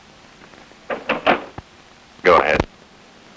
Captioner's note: door clicks